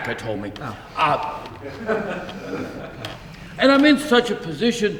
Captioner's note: audience laughs softly